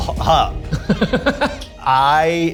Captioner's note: laughs